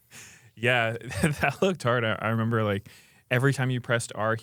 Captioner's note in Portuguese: risos